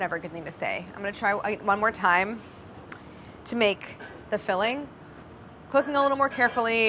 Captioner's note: stammers